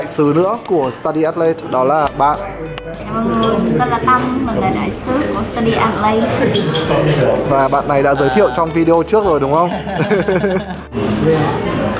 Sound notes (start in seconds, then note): 9.2 laughing